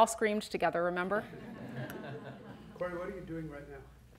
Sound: audience laughs

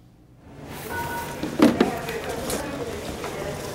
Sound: crowd noise

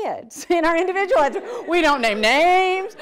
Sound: audience laughter

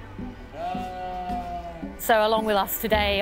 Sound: sheep bleating

